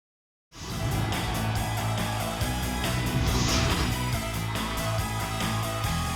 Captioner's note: crowd cheering; upbeat pop music